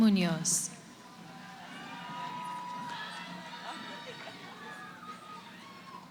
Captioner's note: cheering